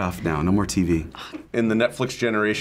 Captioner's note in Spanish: gimiendo